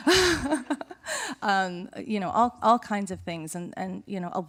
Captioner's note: chuckling